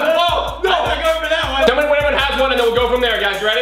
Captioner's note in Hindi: समूह चिल्ला